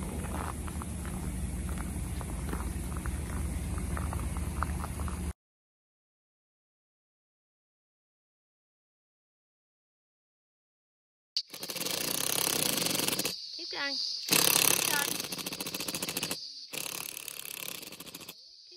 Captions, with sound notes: [sound of hammer drill] Keep going! Keep going!